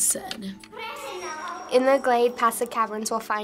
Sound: in game: speaking foreign language

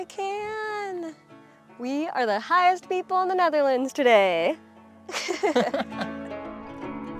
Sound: laughter

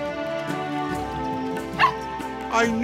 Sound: barking

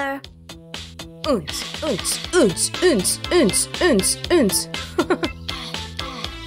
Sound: chuckles

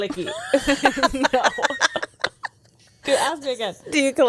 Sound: laughs

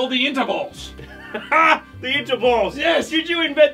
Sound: laughs

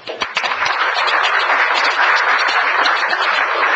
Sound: applause

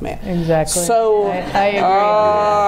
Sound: laughing

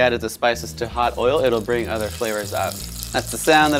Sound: pan sizzling

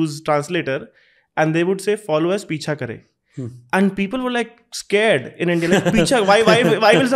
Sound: speaks in Hindi

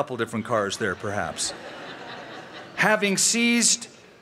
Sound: laughter

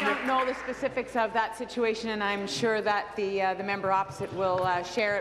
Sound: applause

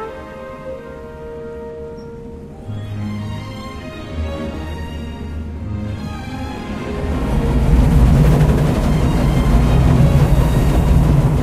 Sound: steam train travelling through mountains

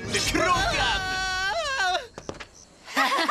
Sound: screaming; all laughing

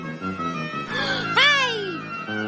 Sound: gasps without opening mouth

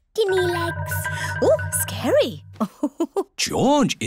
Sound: laughs

